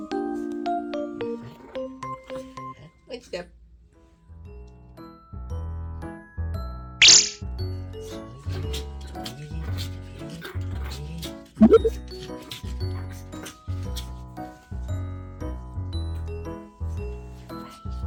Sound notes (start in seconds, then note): 1.3 growls